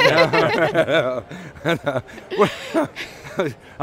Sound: laughing

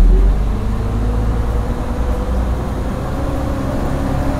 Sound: bus accelerating

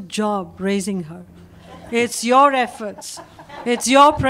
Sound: laughter

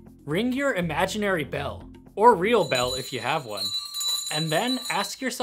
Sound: bell ringing

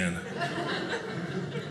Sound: audience laughing

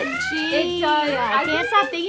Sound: sirens

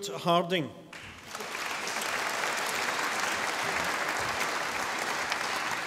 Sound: audience applauding

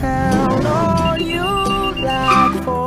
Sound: beeping

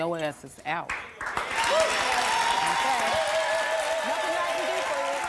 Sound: audience cheering and applause

